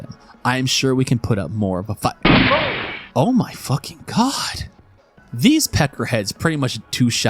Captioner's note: gunshot